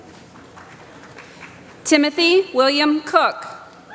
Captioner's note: applause